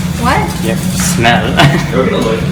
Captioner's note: laughs